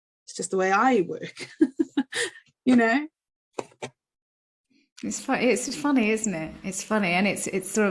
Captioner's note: laughs